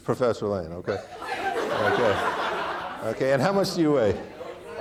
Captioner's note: audience laughing